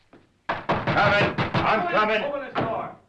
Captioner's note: loud pounding